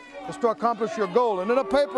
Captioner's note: crowd cheering